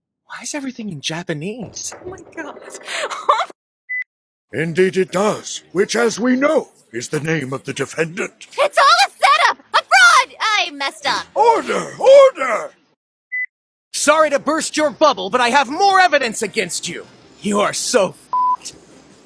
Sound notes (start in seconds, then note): 3.1 laughter; 8.7 yelling